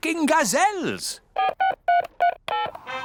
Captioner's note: dialing; phone rings